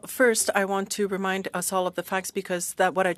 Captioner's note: speaking French